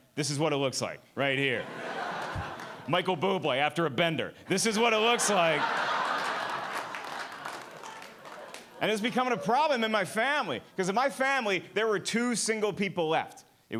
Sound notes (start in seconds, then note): 4.9 audience laughing and clapping